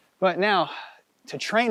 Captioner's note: outhales loudly